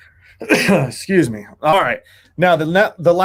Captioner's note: coughing